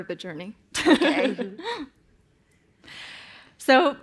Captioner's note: laughter